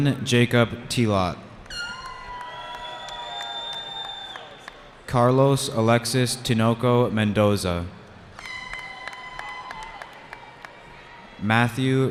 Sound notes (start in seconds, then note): 1.7 cheering; 8.4 cheering